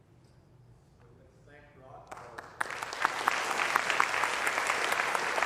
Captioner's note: applause